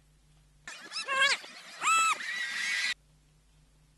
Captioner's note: rewinding sounds